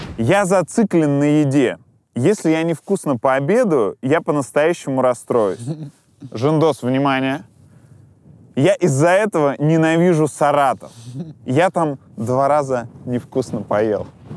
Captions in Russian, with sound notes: — «Я зациклен на еде. Если я невскусно пообедаю, я по-настоящему расстроюсь». Жендос, внимание. «Я из-за этого ненавижу Саратов! (смеется) Я там два раза невкусно поел».